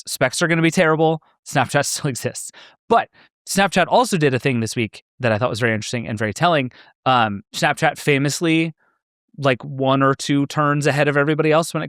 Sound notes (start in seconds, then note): none